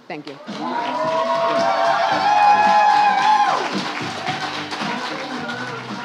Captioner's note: audience applauds and cheers